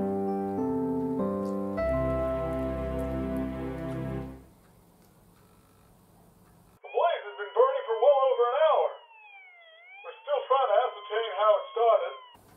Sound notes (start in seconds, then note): 1.5 jingle plays; 2.9 Hulio crunching cereal